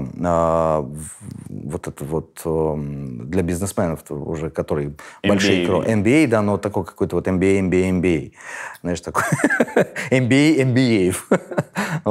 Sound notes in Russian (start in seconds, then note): 9.6 смеётся